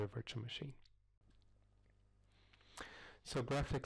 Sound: pause

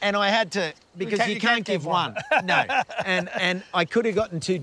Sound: laughs

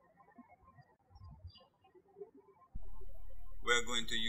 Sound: birds chirping

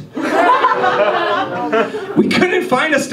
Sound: audience laughs

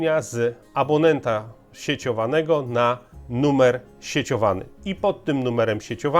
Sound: in Polish

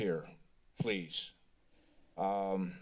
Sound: silence

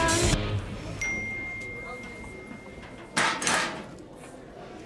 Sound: phone dings

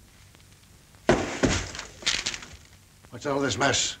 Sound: box clatters

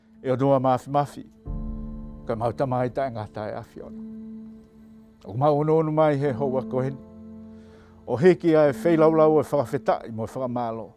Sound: tongan language and music

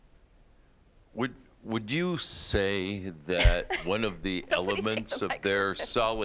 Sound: laughing

